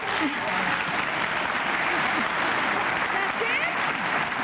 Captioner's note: applause